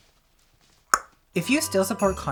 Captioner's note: tongue pops